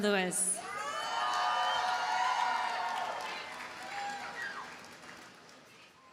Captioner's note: audience cheers and applauds